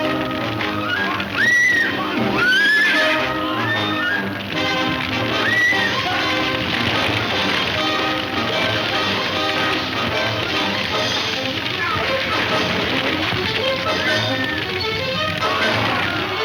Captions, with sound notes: - Come on, come on! (woman screaming) Come on! (dramatic music) (man shouting) (dramatic music)